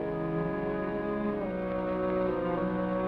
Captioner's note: none